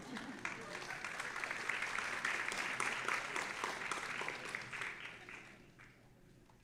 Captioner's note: audience applauding; audience laughing